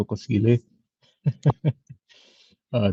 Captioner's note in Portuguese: risada